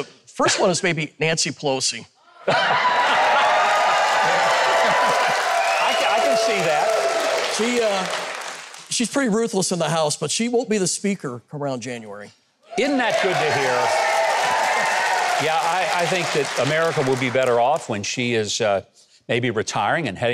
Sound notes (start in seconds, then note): 2.4 audience cheering; 2.6 audience applauding